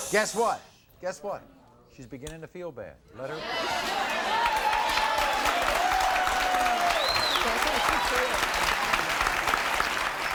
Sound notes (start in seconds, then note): 3.3 audience cheers